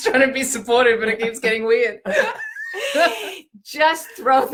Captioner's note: laughing